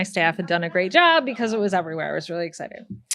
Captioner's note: attendees laugh